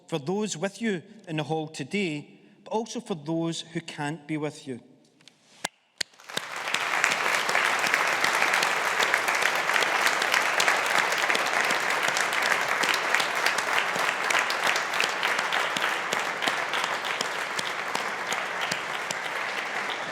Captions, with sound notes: for those with you in the hall today, but also for those who can't be with you. (AUDIENCE APPLAUDING)